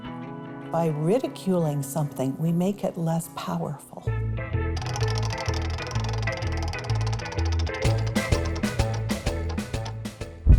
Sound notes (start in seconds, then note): 4.7 roulette wheel spinning